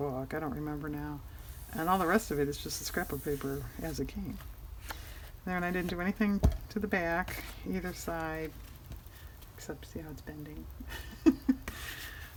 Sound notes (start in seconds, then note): 10.8 laughs